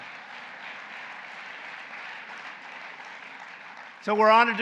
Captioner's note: applause